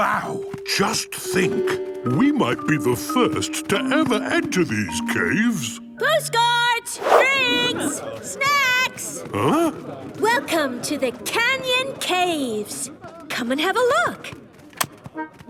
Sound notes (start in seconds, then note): none